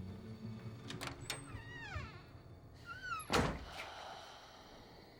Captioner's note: door creaks